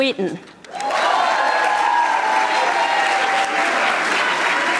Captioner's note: audience applauding